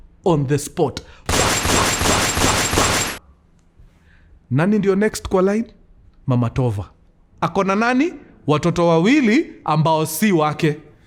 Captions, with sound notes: on the spot (gun shots) Who's next in line? Tova's mother She has two children that aren't hers